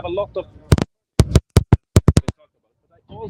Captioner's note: microphone feedback